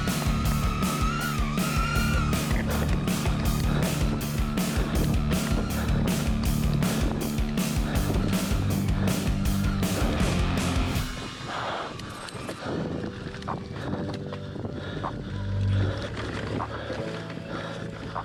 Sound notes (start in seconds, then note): 3.6 breathes heavily